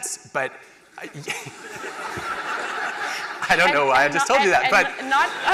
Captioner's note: laughter